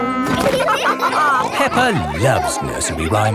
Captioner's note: all laughing